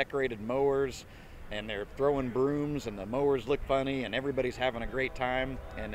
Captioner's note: train in background